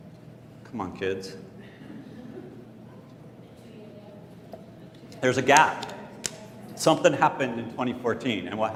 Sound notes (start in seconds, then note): 2.0 laughter